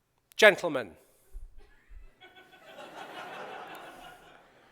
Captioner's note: laughter